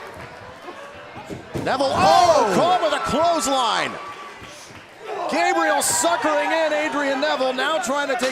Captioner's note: cheers & applause